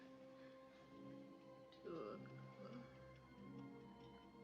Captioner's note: ticking